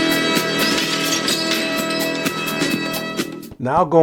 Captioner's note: glass shattering